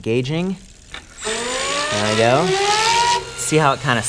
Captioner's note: motor whirring